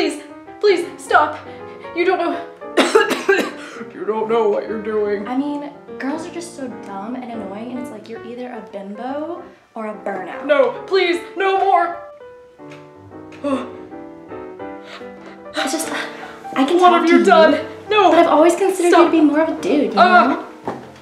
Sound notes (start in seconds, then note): 2.7 coughing; 3.7 deep voice